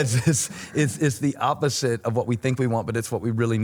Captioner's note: chuckles